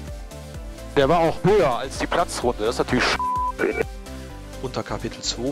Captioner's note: Piep